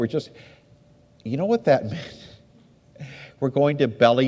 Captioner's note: laughs